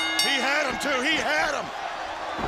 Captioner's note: bell ringing